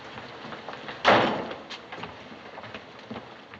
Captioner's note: door slamming